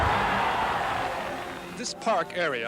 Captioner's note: cheering